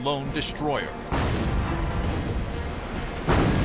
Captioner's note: explosions